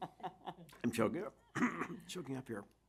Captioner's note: chuckling; clearing throat